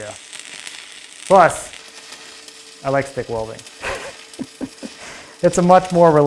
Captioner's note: chuckles